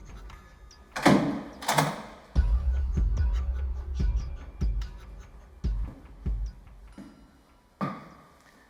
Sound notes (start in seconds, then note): 0.9 door banging; 3.4 dramatic music